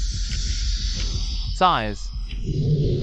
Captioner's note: sighs